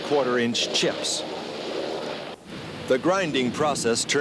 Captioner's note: chipper grinding